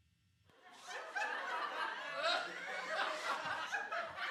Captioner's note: audience laughter